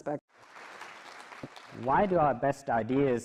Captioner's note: clapping